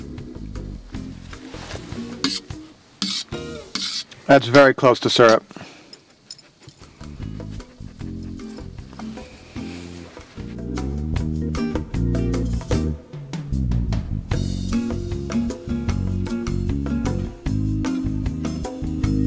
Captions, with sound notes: (thermometer scraping bottom) That's very close to syrup. (gentle music)